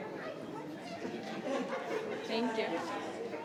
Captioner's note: people chattering